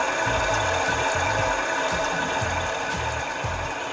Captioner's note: white noise playing